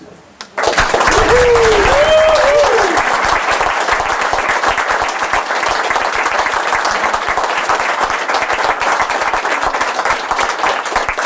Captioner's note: Applaus